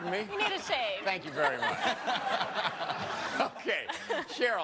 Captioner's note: laughter